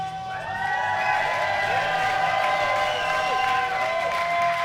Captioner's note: crowd cheering